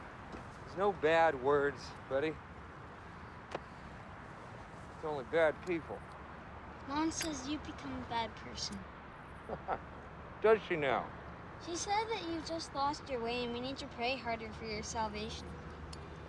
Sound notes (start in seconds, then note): 9.4 chuckles